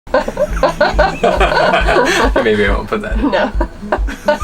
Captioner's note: laughing